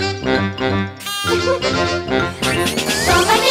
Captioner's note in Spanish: Música Alegre; Risas